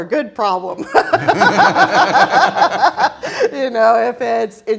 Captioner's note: all laughing